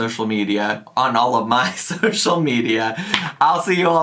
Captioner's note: chuckles